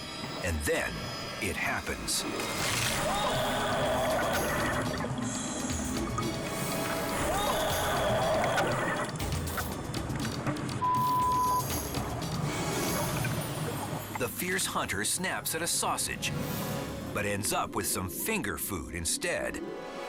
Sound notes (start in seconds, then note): 2.3 eel bites; 10.8 beep